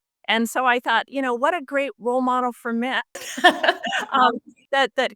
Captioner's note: laughs